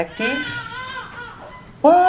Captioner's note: baby crying